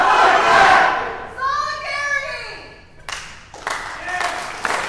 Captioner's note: clapping